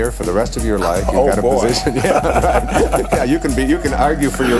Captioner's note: laughter